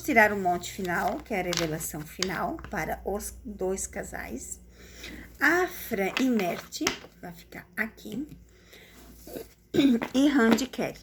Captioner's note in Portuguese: limpando a garganta